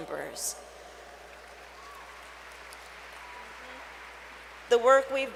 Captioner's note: applause